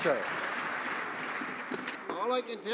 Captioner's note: some Applause